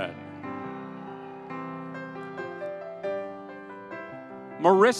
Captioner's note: audience cheering